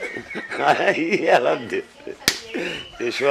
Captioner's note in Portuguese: risos